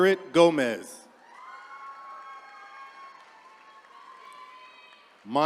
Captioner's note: attendees cheering